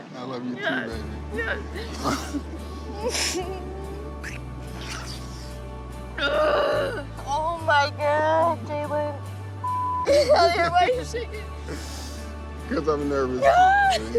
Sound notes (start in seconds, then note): 6.2 Leah groaning; 9.6 beep